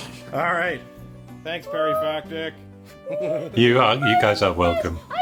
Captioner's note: chuckles